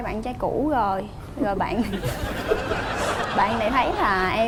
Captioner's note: laughing